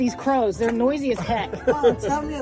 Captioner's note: laughs